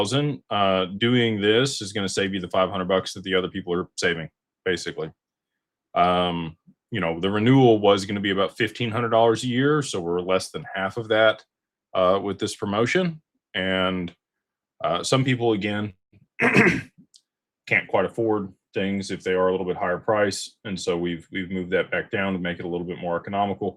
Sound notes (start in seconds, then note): 16.4 clears throat